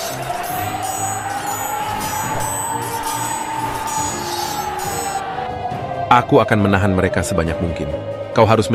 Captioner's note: battle sounds